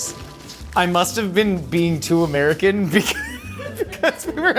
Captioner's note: laughing; crew laughing